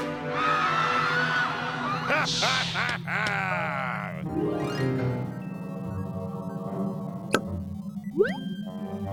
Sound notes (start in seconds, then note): 0.2 terrified screams; 1.8 laughing